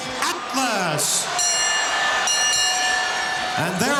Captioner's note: bell ringing